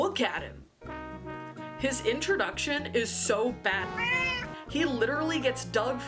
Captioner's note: meow